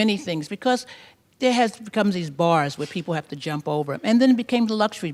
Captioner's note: none